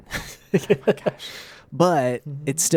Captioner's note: laughs